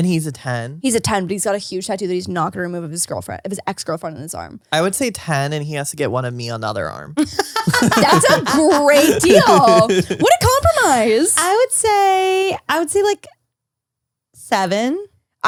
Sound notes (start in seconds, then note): 7.2 laughs